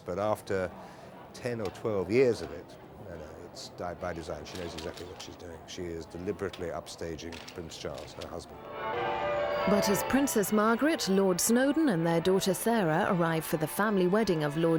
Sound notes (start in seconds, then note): 8.6 bells gonging